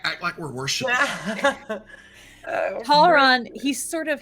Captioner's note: laughing